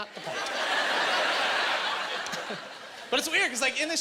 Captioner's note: laughing